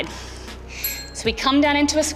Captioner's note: bell chimes